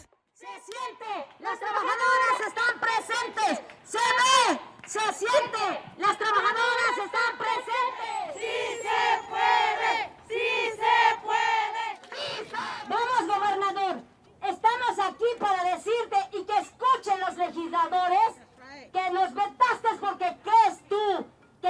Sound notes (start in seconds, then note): 0.1 chanting in Spanish; 6.6 chanting continues; 12.7 in Spanish